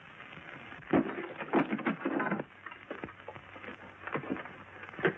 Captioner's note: rocks thudding